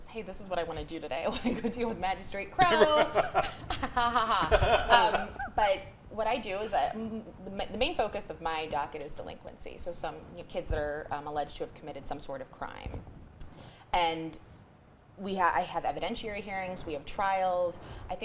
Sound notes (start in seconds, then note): 2.6 laughs